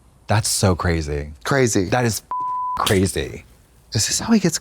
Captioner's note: beep